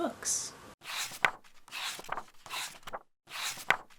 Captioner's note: pages turning